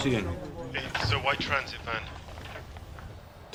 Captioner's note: man over phone